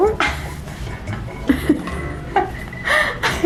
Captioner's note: both laughing